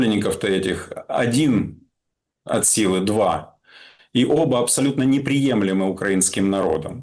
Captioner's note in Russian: откашливается